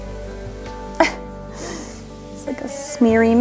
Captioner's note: laughs